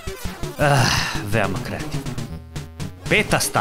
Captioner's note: sigh